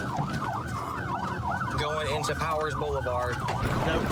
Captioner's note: sirens wailing